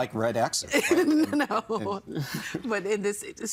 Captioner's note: laughing